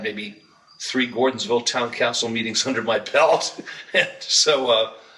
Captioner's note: laughs